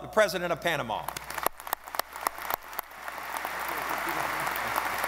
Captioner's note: audience applauding